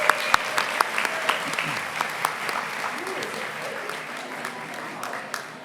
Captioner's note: applause